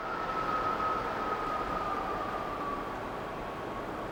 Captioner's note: wind howling